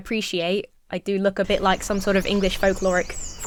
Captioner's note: bird chirping